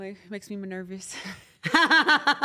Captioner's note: laugh